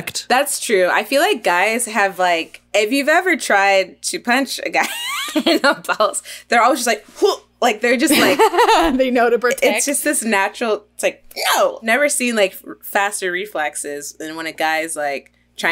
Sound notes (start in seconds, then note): 8.5 laughs